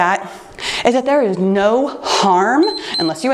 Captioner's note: timer beeps